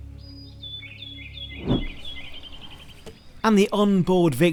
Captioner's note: birds chirping